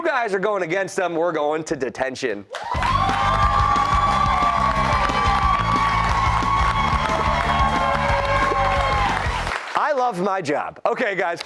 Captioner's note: cheers and applause